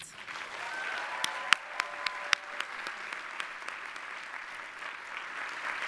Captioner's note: audience applauding and cheering